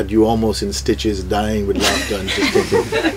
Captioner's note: laughter